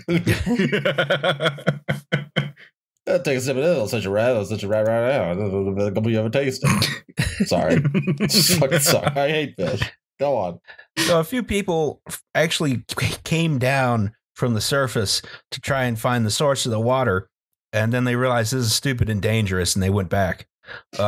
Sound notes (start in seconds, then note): 0.0 laughter; 3.2 country voice; 7.1 laughter